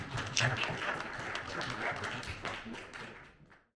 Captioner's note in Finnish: Aplodeja